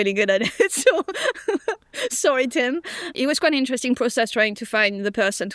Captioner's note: laughs